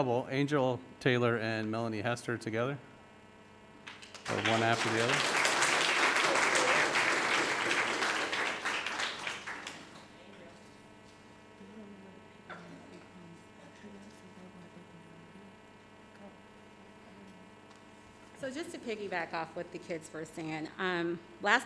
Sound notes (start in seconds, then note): 3.8 audience applauding; 11.4 murmuring